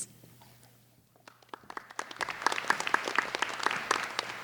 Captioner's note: applauding